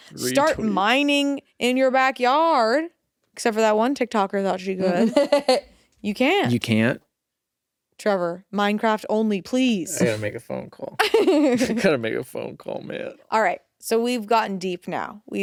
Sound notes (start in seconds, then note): 4.8 laughs